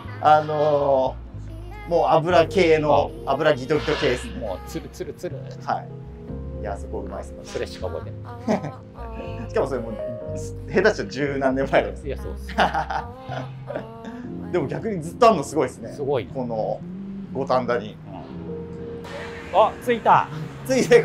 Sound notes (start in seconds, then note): 12.4 laughing